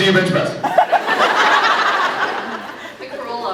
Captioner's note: laughs